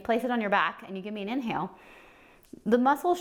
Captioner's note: inhaling